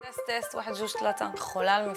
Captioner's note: speaks Moroccan Derija Arabic